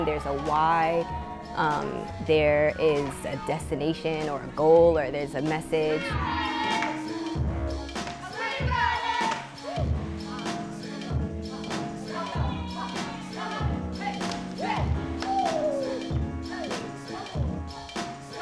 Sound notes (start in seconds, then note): 5.8 upbeat music; 15.0 hands clap; 15.7 upbeat music